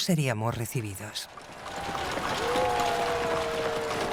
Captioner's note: crowd cheering